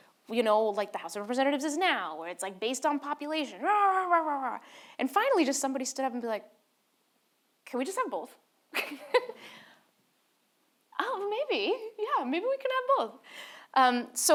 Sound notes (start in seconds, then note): 8.8 laughs